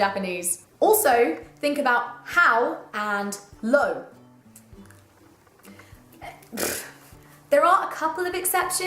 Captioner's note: exasperated noise